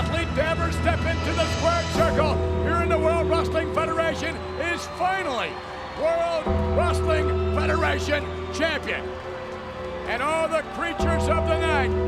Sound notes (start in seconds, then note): 9.0 audience cheers; 9.0 ominous music continues